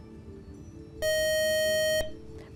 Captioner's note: buzzer